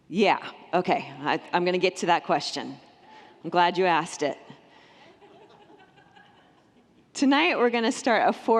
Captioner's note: congregants laugh